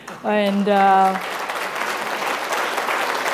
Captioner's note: applause